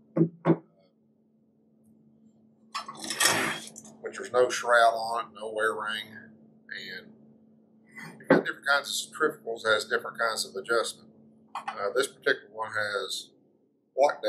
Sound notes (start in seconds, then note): 0.1 metal part clanking on table; 2.7 pump shifting on table